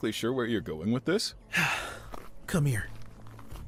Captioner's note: sighs